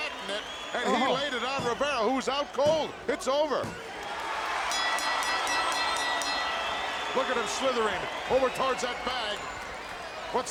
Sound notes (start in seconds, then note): 4.7 bell ringing